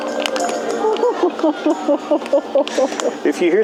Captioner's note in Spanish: risas